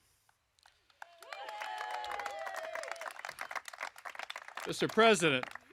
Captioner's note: applause